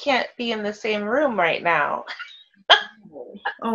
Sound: laughs

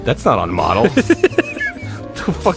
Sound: laughing

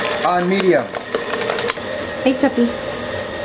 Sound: mixer whirring

